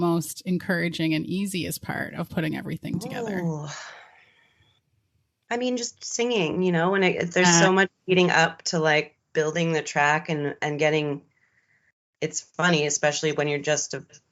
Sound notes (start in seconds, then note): 4.6 exhales